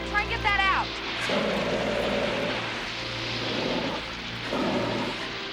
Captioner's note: fire extinguisher whooshing